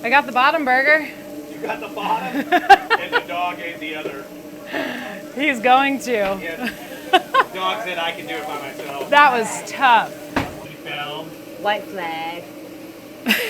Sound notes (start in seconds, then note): 2.1 laughs; 6.6 laughs